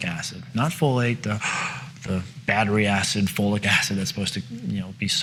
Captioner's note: gasps